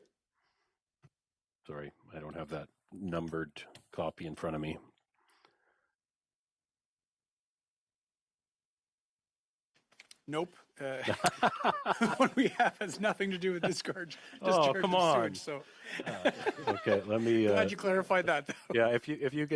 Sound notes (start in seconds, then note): 15.7 coughing